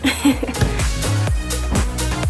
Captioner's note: laughs; upbeat music